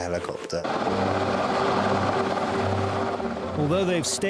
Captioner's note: helicopter engine roars